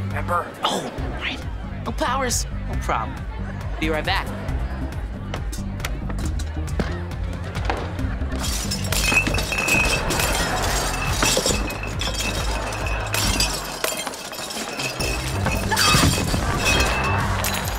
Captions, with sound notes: Oh, right. No powers, no problem. Be right back. [clattering] [screaming]